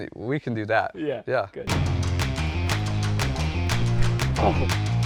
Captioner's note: engine roars